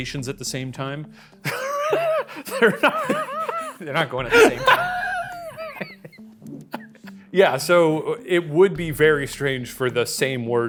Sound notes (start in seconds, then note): 1.4 chuckles; 4.2 laughs; 4.3 chuckles